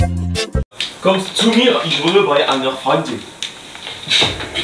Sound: German

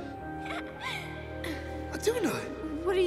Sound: Iduna laughing

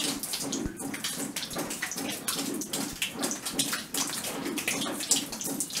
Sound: water noise and pumping

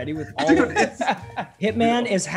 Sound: laugh

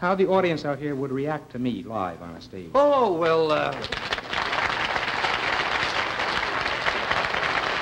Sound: applause

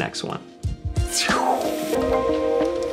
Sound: random ending mouth noise

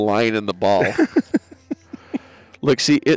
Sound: laughs

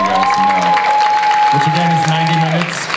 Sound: audience applauds and cheers

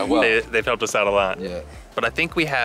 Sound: chuckles

